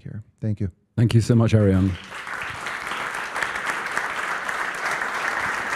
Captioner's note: applause